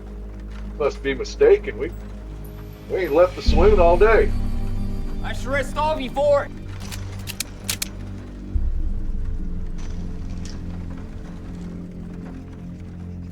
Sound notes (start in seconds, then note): 6.6 guns cocking